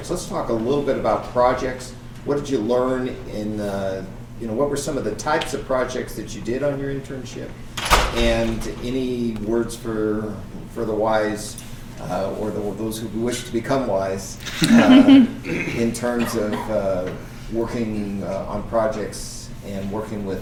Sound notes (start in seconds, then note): 14.4 laughing